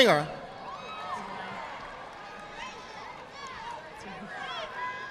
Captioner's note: audience applauding